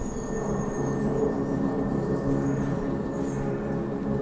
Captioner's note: airplane whirring